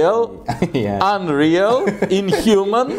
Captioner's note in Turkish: Gülüşmeler